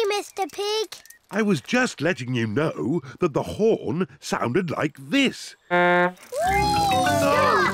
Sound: honks horn

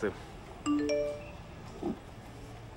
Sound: SMS signal

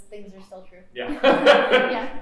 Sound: laughter

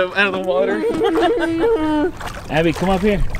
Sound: laughing

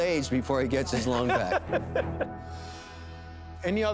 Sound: laughs

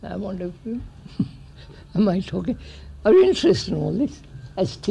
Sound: laughs

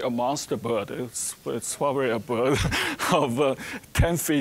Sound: chuckling

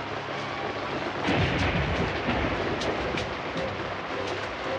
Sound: thunder blasting

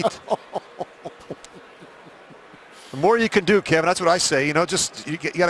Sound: laughter

